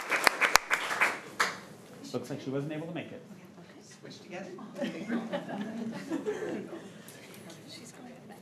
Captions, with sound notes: Looks like she wasn't able to make it. (crowd giggling)